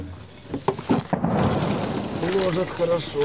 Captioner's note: more explosion in the distance